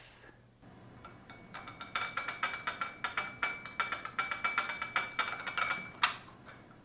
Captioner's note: teacup and saucer rattling